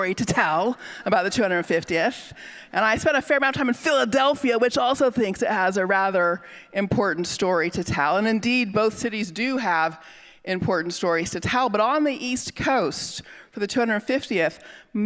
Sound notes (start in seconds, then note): none